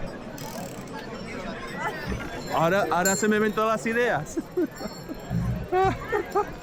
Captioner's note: bell ringing; speaking in foreign language; upbeat music